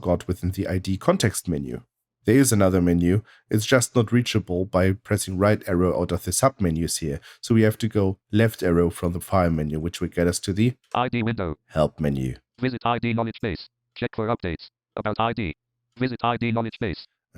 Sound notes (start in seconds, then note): 10.7 automated voice